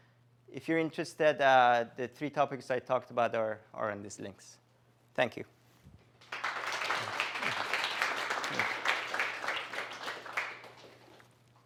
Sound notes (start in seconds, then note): 6.2 applause